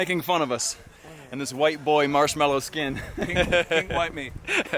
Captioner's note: laughs